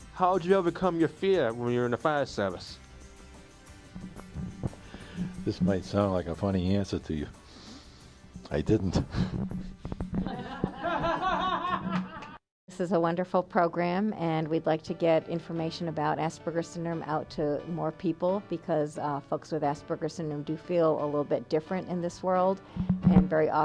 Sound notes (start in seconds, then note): 10.2 laughter